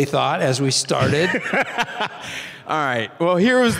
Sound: Tim laughing

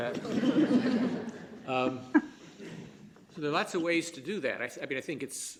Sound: laughter

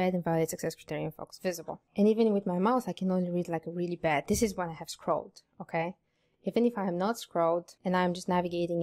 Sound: none

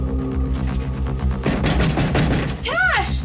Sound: loud door knock

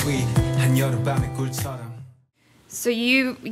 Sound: foreign language

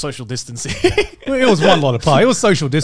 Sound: laughing

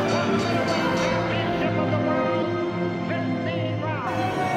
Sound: distant echoing announcer

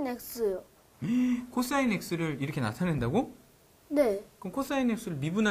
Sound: surprised

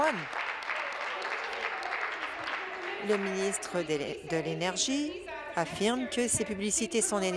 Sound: some Applause

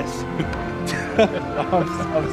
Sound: laughing

